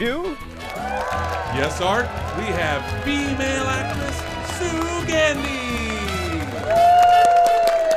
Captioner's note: audience cheers